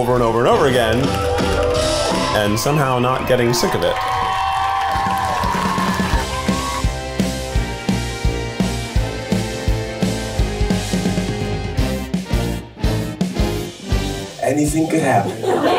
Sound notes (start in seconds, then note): 2.8 crowd cheering; 2.8 upbeat music; 14.8 crowd laughing; 15.5 crowd clapping